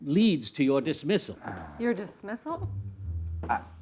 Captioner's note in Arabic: مايكل يتنهد